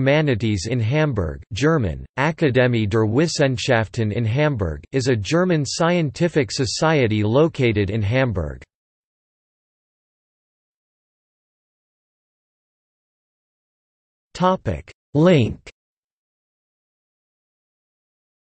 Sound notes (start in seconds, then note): 8.2 in German